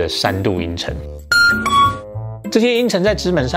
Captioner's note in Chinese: 鈴聲